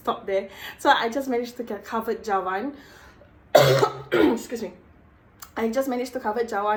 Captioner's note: cough